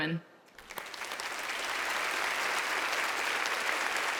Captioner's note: audience applauds